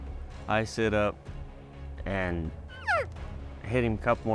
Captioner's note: imitates elk call